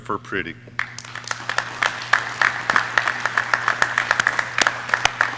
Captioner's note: audience cheering